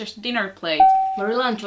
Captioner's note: ding